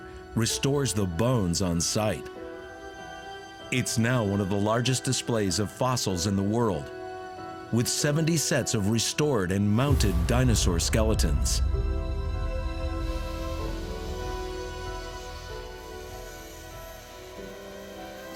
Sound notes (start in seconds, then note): 13.0 tools buzzing